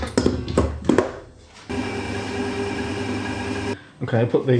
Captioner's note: machine whirring